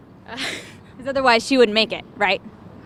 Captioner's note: laughing nervously